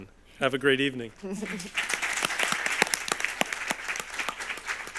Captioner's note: audience applauds